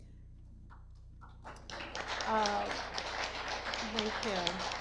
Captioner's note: audience applause